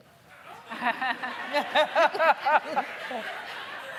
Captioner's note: laughing